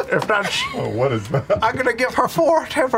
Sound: laughter

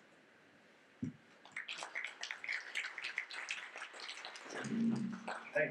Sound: audience clapping

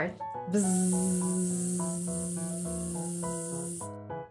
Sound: buzzing

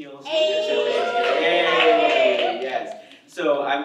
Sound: audience cheers

